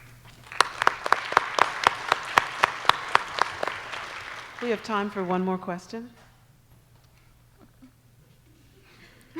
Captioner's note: applause